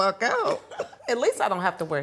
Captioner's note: laughing